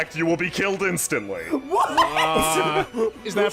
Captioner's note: breathlessly laughing